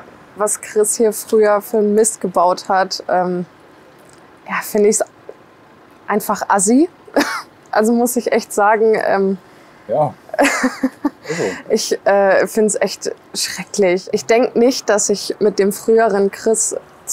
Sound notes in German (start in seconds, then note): 6.4 Unterdrücktes Lachen; 10.3 Lachen